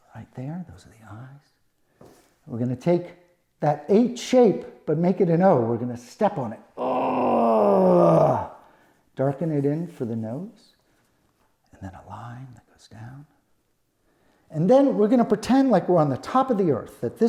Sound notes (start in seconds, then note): 6.8 grunts